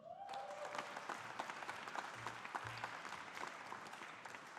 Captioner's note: audience applauding